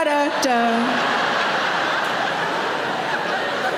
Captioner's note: audience laughs